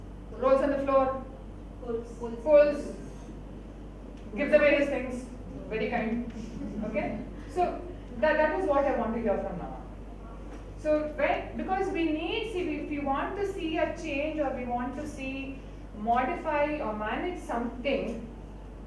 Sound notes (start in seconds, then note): 6.3 audience laughs